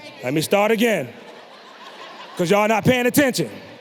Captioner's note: audience laughing